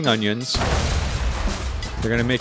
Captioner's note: boom